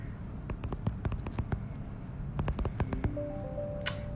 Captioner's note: typing